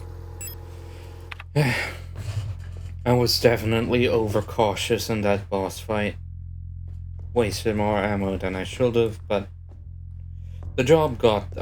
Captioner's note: sigh